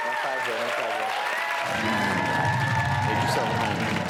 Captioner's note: applause and cheering